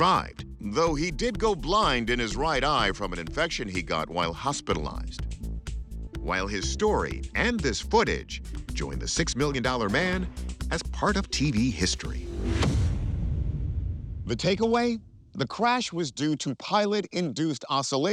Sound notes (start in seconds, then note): 11.6 intense ambient music; 11.9 graphic whooshes